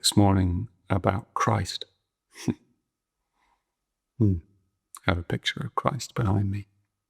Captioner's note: chuckles